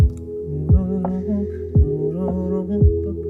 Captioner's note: humming